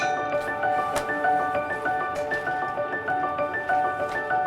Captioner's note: bright music; hammer clinking; plastic rustling